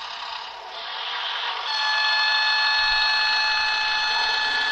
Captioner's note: horn sounds